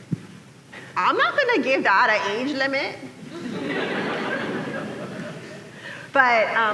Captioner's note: laughter